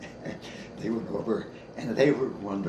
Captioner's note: chuckles